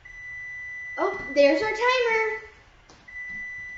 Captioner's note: timer beeping